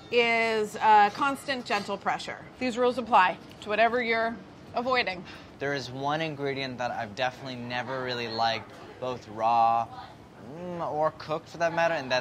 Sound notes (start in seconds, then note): none